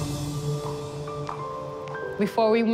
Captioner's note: footsteps pattering